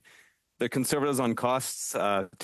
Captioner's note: speaking French